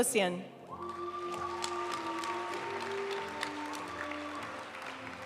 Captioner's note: audience cheering and applauding; graduation music